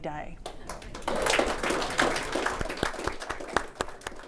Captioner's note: audience applauds